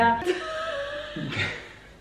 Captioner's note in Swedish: skrattar